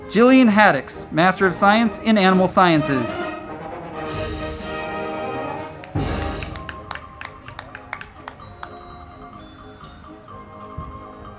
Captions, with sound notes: Jilleen Haddix, Master of Science in Animal Sciences. (band music) (crowd clapping)